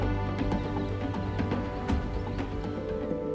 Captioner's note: birds chirp; reverential music